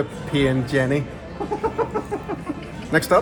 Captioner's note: laughs